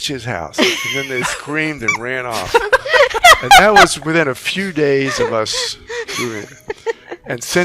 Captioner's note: laughing